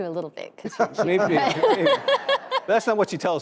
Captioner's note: audience laughing